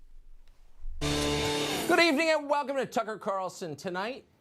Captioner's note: soundbite of tv show, "tucker carlson tonight"